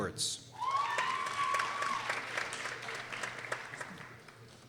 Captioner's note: people cheering